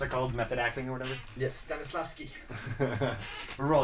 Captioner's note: laughter